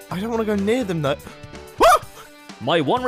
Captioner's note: gasps and yelps in fear